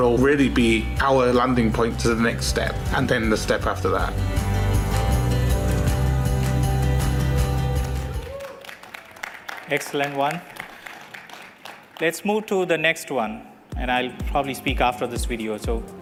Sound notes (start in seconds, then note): 4.1 applause